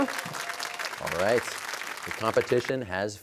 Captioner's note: cheers and applause